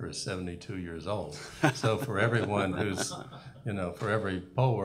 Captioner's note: laughter